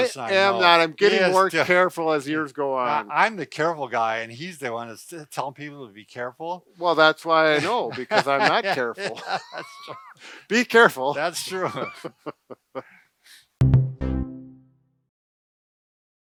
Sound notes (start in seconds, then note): 7.5 laughs; 13.8 upbeat tone